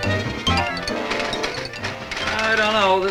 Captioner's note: typewriter clacking